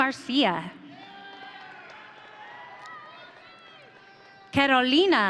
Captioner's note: audience cheering